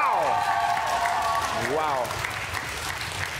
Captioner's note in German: Applaus